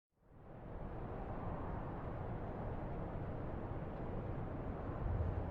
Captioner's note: wind howling softly